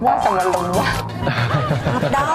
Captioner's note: laughs